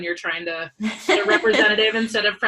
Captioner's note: laughs